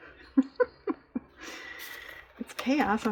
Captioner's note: laughs